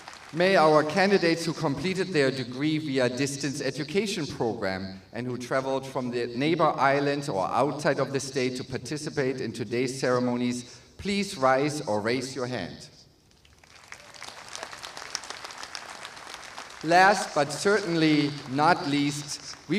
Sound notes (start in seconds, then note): 13.3 applause